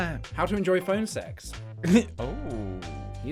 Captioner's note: giggle